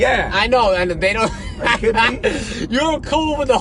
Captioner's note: laughs